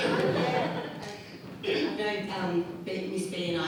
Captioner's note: audience laughs